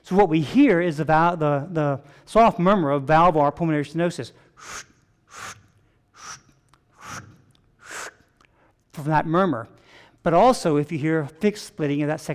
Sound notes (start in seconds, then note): 4.7 vocalizing rapid whooshing